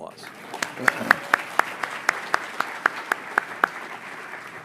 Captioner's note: everyone applauds